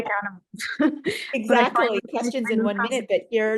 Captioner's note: laughing